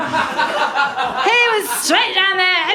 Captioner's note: laughter